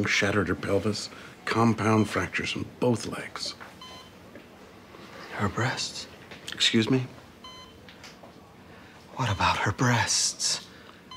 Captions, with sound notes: shattered her pelvis, compound fractures in both legs. (monitors beep) - Her breasts? - Excuse me? - What about her breasts?